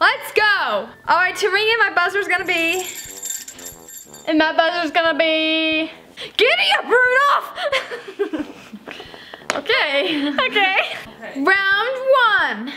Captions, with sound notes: Let's go. All right, to ring in my buzzer's gonna be (bell tinkling) - And my buzzer is going to be, "Giddy-up, Rudolph." (laughter) - Okay. - Okay. - Round one.